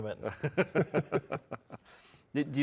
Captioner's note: all chuckling